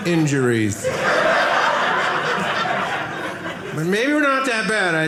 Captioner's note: audience laughing